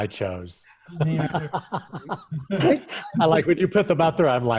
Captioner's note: laughing